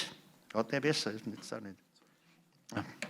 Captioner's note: non-english speech